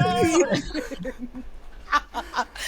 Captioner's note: laughing